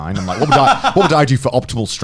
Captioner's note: laughs